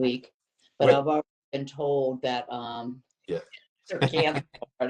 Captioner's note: laughter